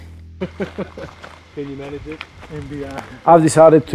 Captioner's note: laughter